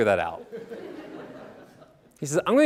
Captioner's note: audience laughing